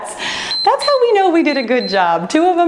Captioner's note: timer beeps